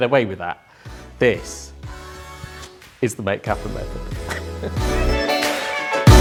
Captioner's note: chuckles; upbeat music